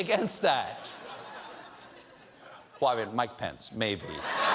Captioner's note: laughter